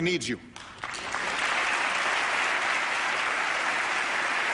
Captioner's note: applause